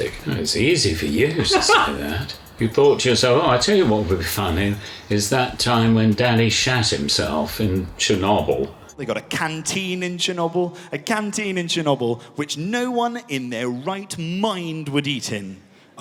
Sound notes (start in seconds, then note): 0.9 Jack laughs